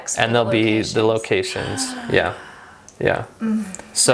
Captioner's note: woman gasping